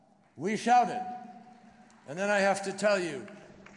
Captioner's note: applause